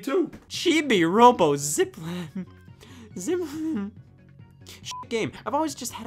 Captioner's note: beeps